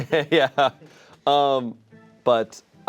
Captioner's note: laughs